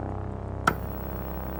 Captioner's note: clicking on